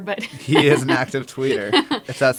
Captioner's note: laugh